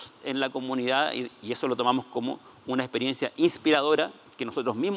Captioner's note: speaking Spanish